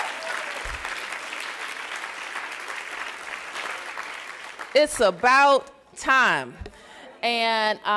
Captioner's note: applause